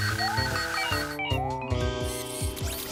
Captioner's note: electronic beeping